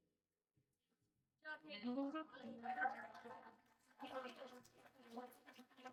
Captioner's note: applause